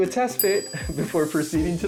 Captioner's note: bell dings; chuckles